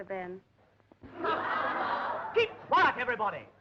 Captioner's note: laughing